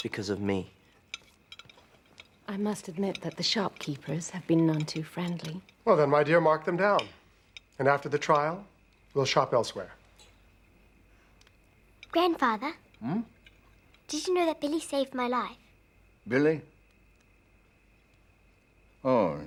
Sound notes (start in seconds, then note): none